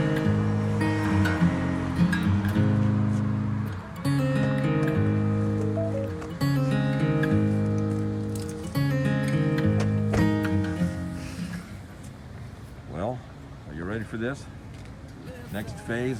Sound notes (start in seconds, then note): 0.1 zumbido del tráfico; 4.0 música suave; 4.0 pitidos de coche